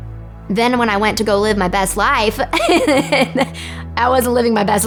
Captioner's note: laughs